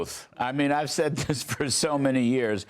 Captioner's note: laughter